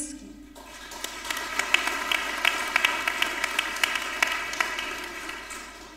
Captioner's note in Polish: oklaski